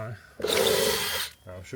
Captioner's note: saw whirring